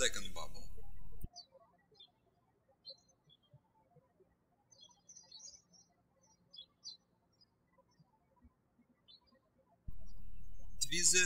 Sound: birds chirping

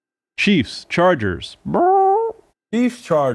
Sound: squawks

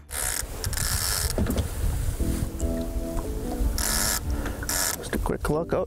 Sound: fishing line spurring

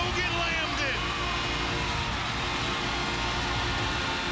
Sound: cheering

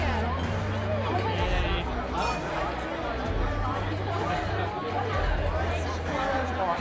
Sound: people chattering drowns out singing

